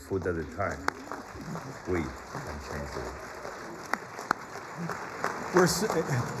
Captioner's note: applause